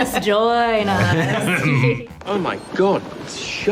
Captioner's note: Colin laughing